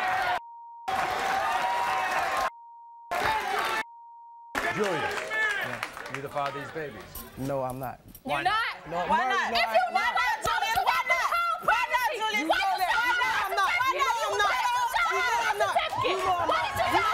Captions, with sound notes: - Julius? Are you the father of these baby's? - No I'm not. - You're not? - No I'm not. - Why not? Na, na, Julius, why not? - Whole pregnancy! (screaming over one another)